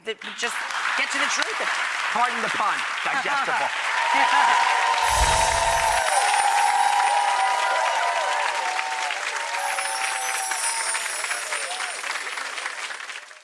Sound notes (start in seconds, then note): 1.4 audience applause; 2.8 audience cheers; 5.0 chimes; 9.5 chimes